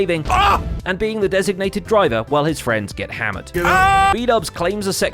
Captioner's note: Bdubs shouts; Bdubs hollers